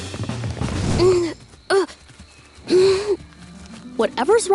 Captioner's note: grunting